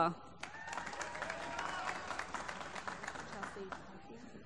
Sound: applause

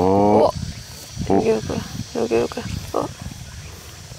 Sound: laughing

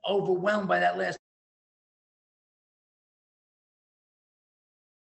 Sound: audio cut out

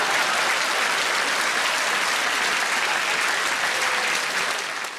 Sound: audience applause

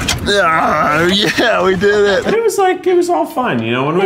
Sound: loud grunt

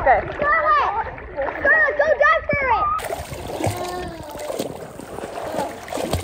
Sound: background kids chatter

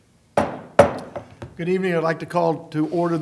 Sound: gavel

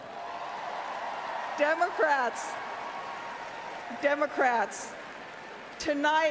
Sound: applause

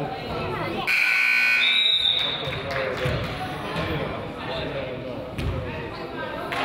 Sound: buzzer honks; whistle blows

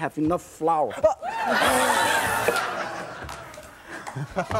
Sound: audience laughs

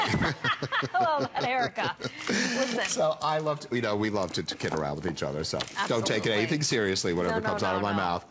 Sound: laughter

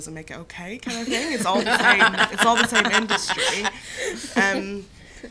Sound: laughter

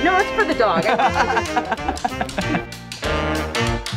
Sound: Rocky laughs; cheerful music

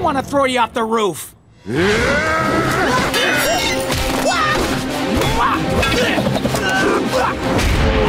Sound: grunting

